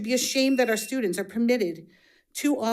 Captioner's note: buzzer buzzing